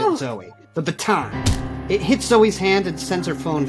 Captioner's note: baton thuds